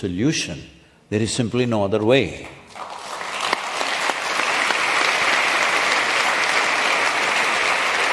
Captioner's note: applause